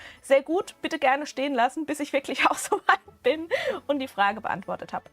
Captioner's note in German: Gelächter